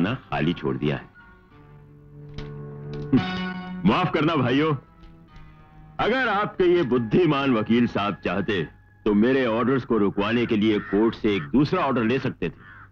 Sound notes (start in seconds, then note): 3.1 chuckles